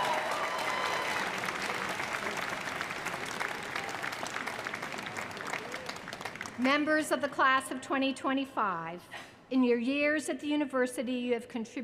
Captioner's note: applause